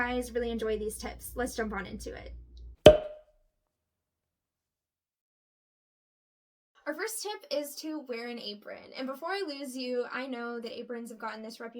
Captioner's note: ding